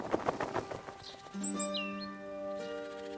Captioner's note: tweeting